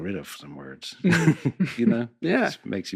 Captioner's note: laughs